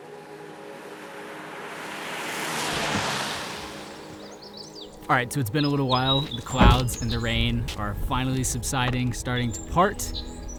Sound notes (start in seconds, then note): 0.8 car passing